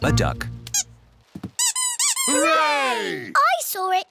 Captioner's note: duck squeaks